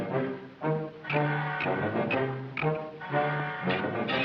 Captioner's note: nut clicking